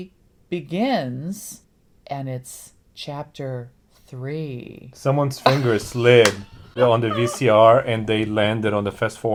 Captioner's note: laughs